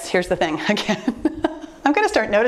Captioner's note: laughing